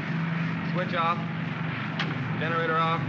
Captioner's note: switch clicks; switches click